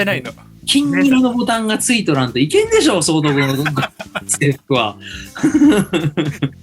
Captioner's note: laughs